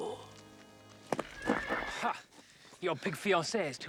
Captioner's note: horse whinnies